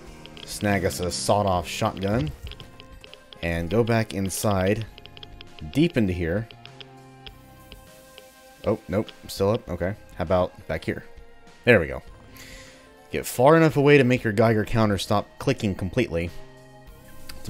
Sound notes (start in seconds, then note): 0.2 riff plays; 6.5 geiger Counter still clicking